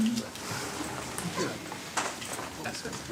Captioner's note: background chatter